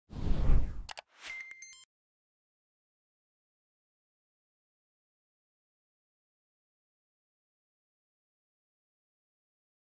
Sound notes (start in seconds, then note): 0.8 mouse clicking; 1.2 beeping